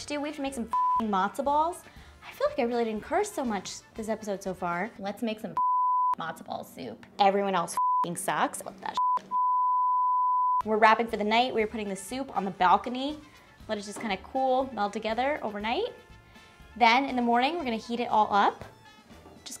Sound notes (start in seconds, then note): 0.7 beep; 5.6 beep; 8.9 beep; 9.0 beeping